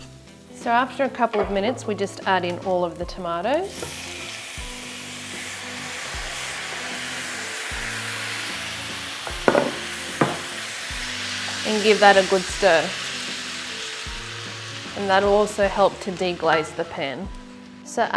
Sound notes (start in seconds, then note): 4.5 tomatoes sizzle